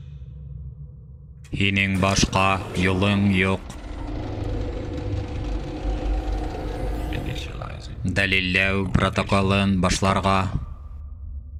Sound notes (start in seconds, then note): 2.0 mechanical movements; 3.4 eerie music